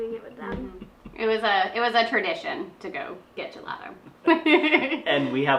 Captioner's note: laughs